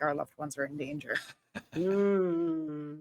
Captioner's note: chuckling